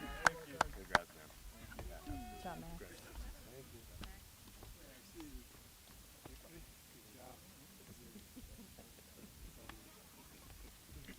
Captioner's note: applause